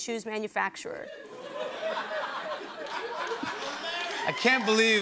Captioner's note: laughter